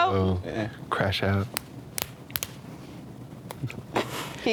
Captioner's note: hands slapping